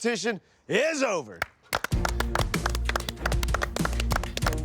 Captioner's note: applause